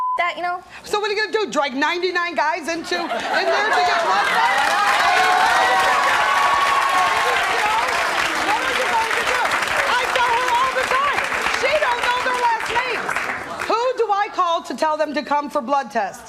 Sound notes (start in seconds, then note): 0.0 beep; 5.1 audience cheering